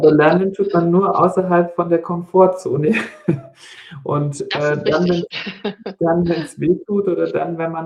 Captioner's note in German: gelächter